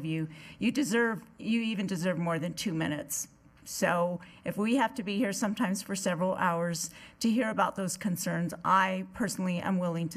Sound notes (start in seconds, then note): none